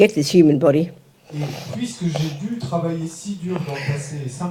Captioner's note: French